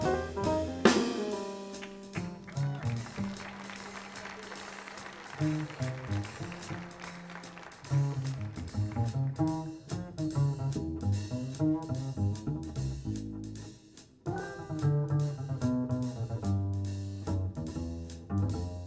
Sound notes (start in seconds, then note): 0.6 jazz music softens; 1.7 audience applauds; 2.2 audience member hoots